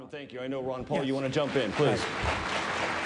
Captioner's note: cheering